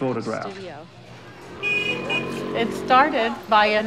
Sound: horn honks

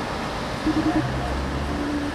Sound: phone ringing

